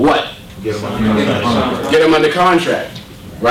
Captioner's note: audience talking